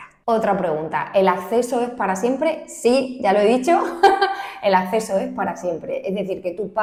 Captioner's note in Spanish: risas